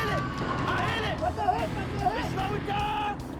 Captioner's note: shots fire; germans shouting in German